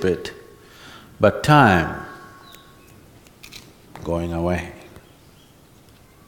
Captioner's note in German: schnippt mit den Fingern